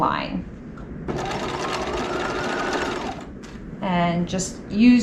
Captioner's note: sewing machine whirling